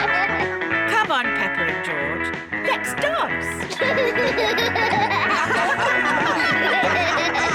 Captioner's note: all giggle; all laugh